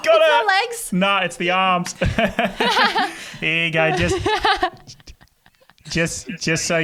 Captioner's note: laughing